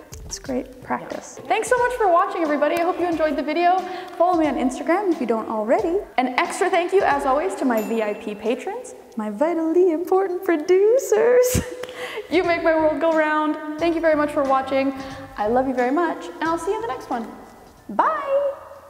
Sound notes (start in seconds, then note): 7.7 bell dinging; 13.3 upbeat music